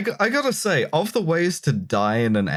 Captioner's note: none